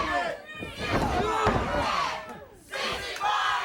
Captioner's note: wrestler bellowing; body thudding